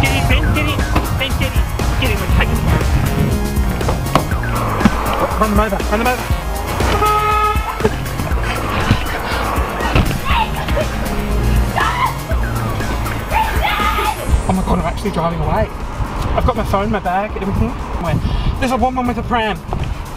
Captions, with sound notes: Get in Ben, get in, Ben get in. Get in, we're taking the bow. Run them over, run them over. (car horn beeps) (laughing) - Wait, stop, bring it back. Oh my God, I'm actually driving away. I've got my phone, my bag, everything, my, ah. There's a woman with a pram.